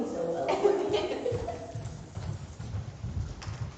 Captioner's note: laughter